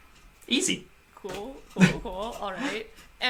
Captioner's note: laughs